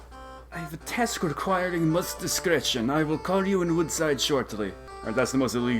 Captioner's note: vaguely European accent